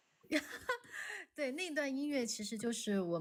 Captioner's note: laughs